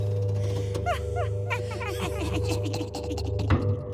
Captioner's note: sinister laughing